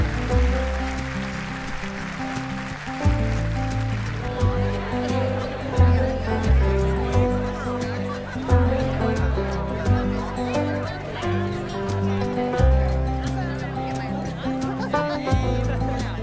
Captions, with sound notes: (slow guitar music) (overlapping chattering) Congratulations, my girl.